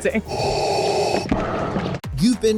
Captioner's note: darth vader breathing